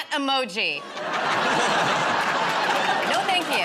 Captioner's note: laughter